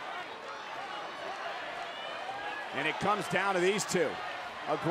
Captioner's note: applause